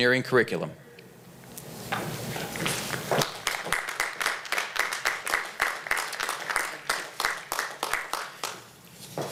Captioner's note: applause